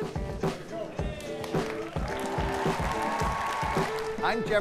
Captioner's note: applause